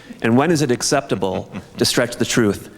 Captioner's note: laughs